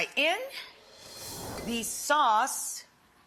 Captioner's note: air whooshes